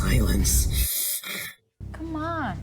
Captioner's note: breathes through his teeth